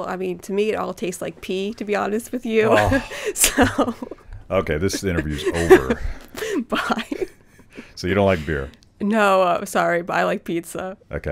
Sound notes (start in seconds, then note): 2.5 laughs; 2.6 sighs; 7.3 laughs